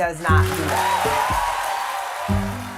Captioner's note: applause